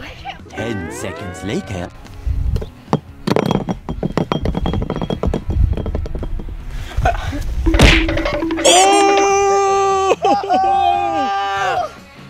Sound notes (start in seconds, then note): 7.7 timer counting down; 9.3 shouting